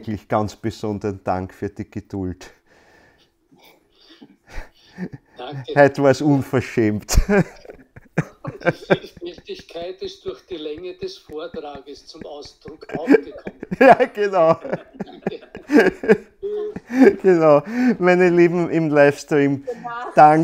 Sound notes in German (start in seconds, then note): 16.1 Er lacht